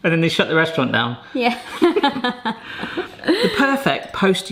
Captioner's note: laughs